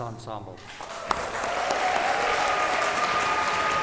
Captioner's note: cheers and applause